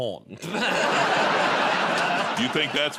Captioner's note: laughter